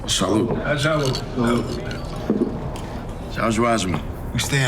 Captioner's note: glasses clinking